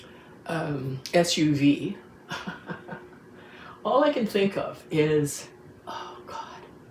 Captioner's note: laughs